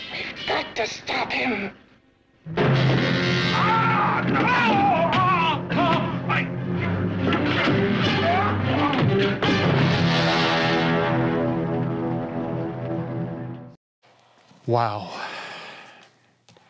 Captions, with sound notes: We've got to stop him! (screaming) (ominous orchestral music) - Wow.